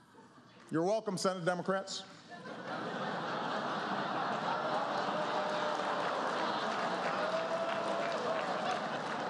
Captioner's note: laughter